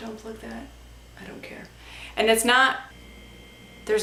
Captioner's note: inhales loudly